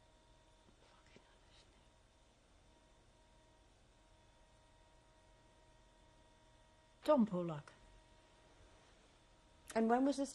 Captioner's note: pauses for 3 seconds; pauses for 6 seconds